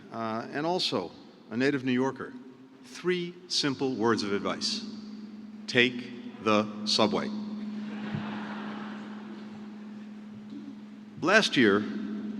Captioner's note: laughter